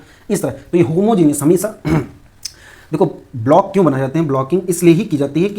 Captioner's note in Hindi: गला साफ़ करने की आवाज़